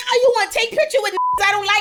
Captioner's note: beep